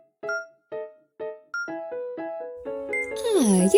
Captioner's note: cheerful piano music continues; timer beeping